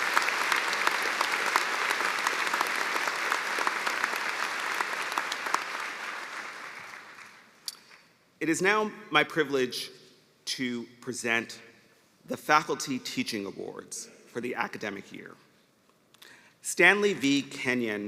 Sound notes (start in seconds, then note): 4.4 applause